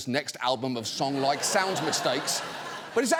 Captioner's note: audience laughing